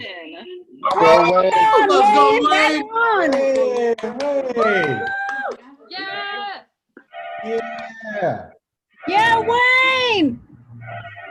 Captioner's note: cheering